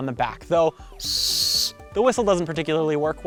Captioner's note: air blowing